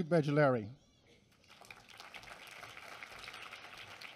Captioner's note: applause